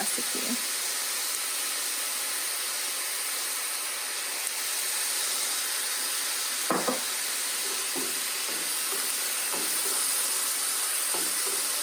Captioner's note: sizzling